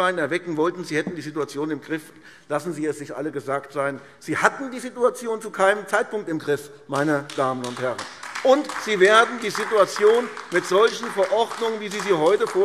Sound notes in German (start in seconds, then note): 6.9 Beifall AfD